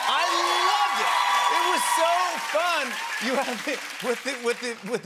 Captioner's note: cheers and applause